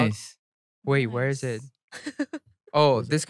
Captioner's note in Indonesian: tertawa